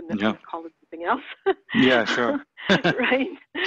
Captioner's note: laughs